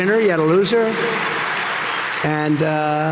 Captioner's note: audience cheering